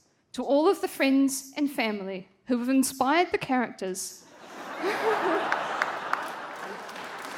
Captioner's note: laughter